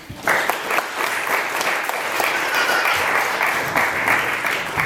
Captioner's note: audience applauds